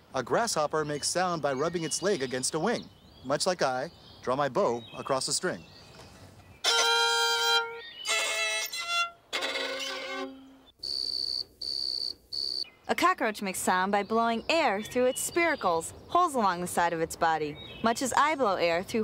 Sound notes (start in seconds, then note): 8.8 <i> plays notes</i>; 12.3 <i> chirping</i>